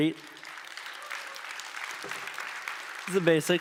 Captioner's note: applause